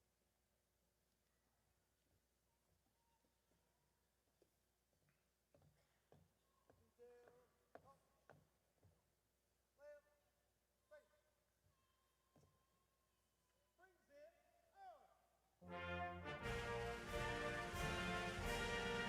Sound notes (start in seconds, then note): 13.2 officer faintly speaking